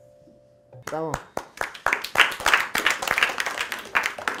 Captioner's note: applause